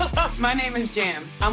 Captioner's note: laughs